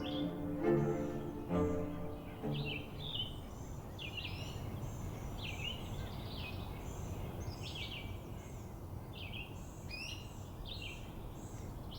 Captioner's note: birds singing